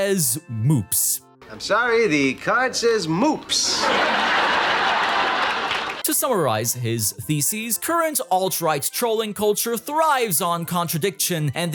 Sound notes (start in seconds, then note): 3.6 sitcom-laughter